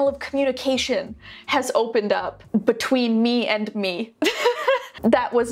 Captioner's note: laughs